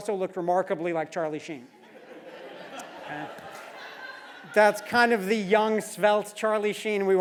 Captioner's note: laugh